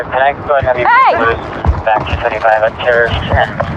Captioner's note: radadio c chahatter